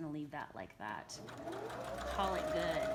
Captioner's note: sewing machine hums